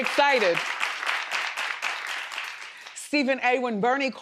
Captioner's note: crowd applauding